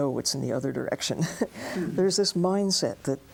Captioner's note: laughs